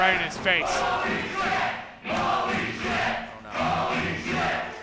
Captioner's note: crowd